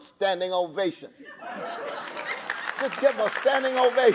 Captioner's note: audience laughing